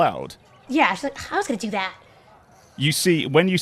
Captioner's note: scoffs